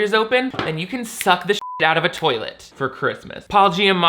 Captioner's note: beep